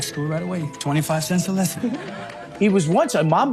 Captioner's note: audience laughing